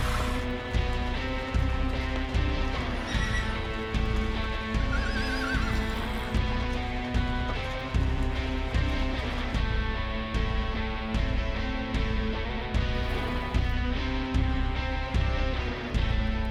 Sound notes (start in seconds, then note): 0.9 horse blows; 3.9 horses neighing